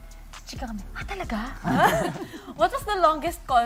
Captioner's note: laughter